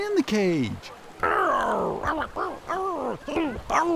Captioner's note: grunting